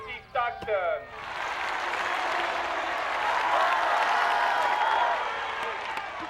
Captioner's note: crowd cheering and applauding